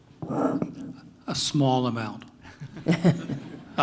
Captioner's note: laugh